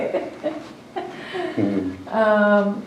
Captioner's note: laughter